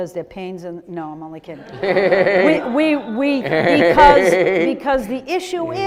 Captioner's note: audience laughing